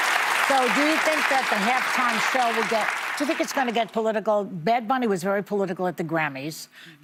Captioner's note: applause